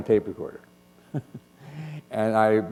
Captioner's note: chuckle